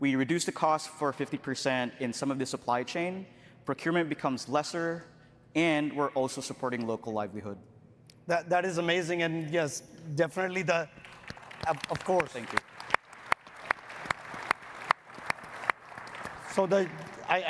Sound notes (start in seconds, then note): 13.0 audience clapping